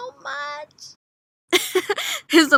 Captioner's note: laugh